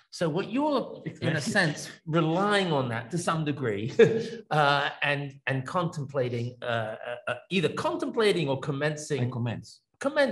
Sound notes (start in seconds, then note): 3.9 laughs